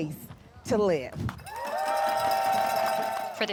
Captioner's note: cheering and applause